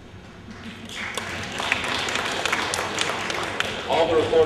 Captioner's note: applause